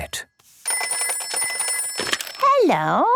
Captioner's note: phone ringing